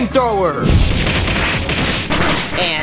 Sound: fire roaring

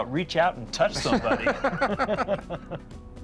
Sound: Rick and Sean laugh

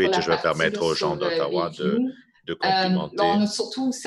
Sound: speaking in French

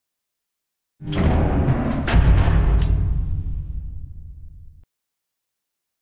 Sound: sound of lift

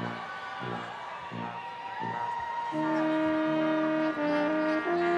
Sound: people chering

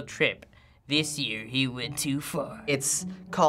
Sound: dramatically

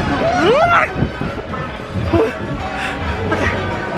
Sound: yells

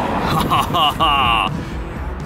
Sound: laughs

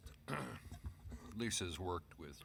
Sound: clears throat

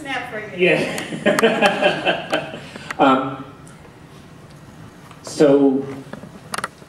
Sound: laughter

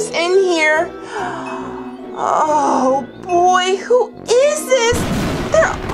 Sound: gasps

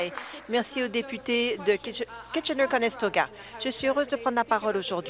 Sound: applause

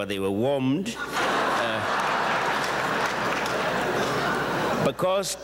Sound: audience chuckles

